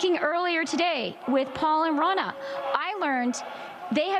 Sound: chanting

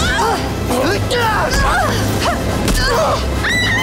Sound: grunting; screaming

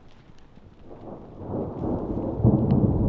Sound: thunder

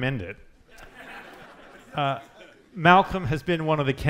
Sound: audience laughs

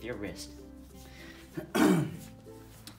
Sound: COVID Cough

